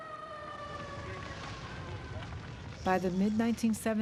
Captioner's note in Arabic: طقطقة النار